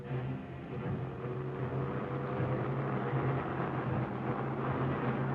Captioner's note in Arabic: محرك السيارة يدور